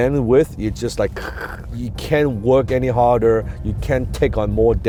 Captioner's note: gurgling